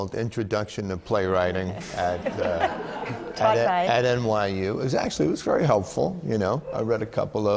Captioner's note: laughter